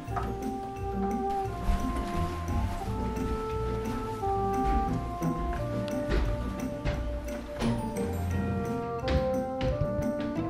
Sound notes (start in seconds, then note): 6.3 steps approaching